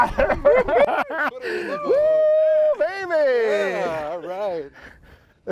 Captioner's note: both men laugh and scream